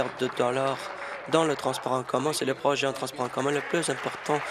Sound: applause

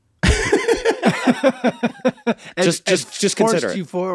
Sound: Rob and Charlie laugh

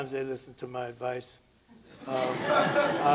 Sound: laughter

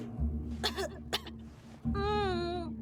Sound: coughs; spits

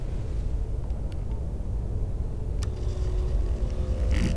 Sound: recorder beeps on

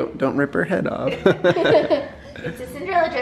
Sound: laughs

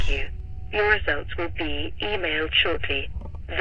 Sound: automated voice

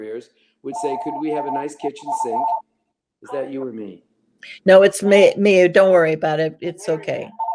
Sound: phone ringing

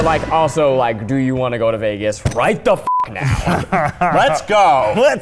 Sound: beep

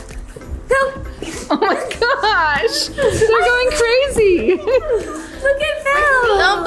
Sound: laughs

